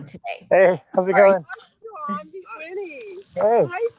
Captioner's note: woman mumbling